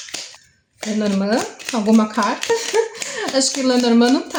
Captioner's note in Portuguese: risos